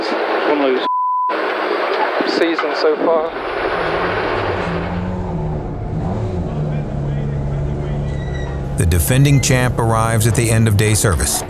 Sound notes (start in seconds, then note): 0.9 beep; 4.8 engine purring